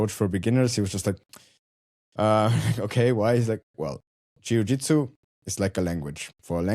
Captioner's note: chuckles